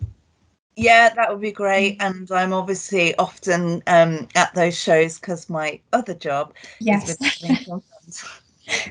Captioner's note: laughs